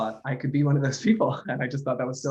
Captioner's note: laughin